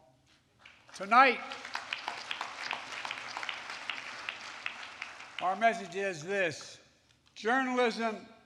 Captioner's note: applause